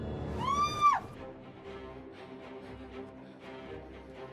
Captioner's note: Julie screams